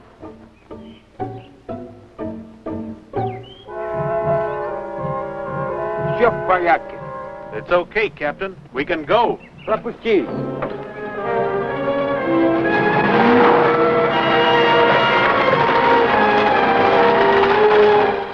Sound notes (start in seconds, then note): 0.1 vintage music; 5.8 foreign language; 9.3 foreign language; 10.2 vintage music